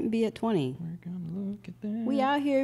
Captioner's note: hums